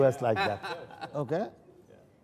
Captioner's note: laughter